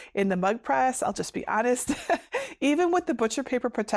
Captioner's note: chuckles